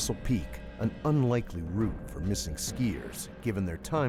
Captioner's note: voiceover